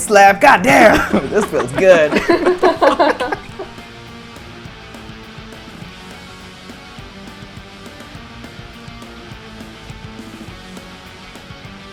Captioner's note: laughter; laughter